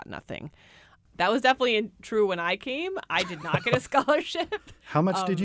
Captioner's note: laughs